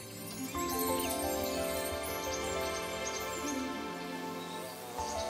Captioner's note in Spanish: gorjeo; zumbido